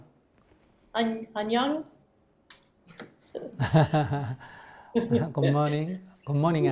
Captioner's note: Sunim/Questioner laughter